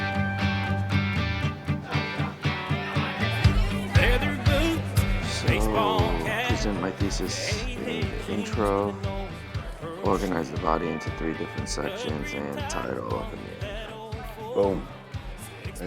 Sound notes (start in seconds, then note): 1.6 patrons chattering